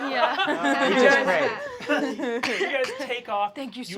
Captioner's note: laughter